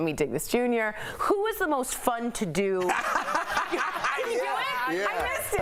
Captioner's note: laughter